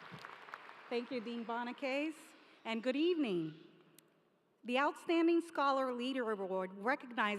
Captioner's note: applause